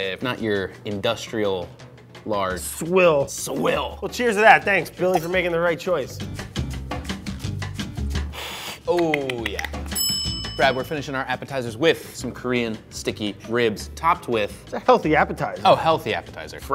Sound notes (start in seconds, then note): 6.2 upbeat Music; 8.4 Brad inhales though teeth, makes clicking sound; 9.9 bell dings